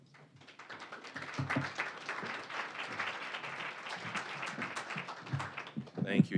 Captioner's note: applause